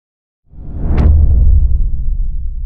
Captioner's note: powerful whoosh sound